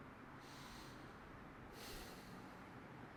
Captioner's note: breathes deeply